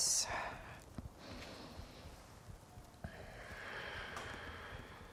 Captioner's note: breathing deeply